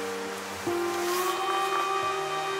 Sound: wind

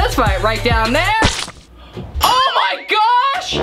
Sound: banana drops

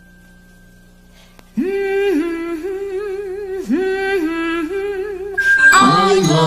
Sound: Sandy Duncan Humming

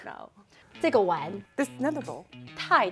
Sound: speaking in mandarin

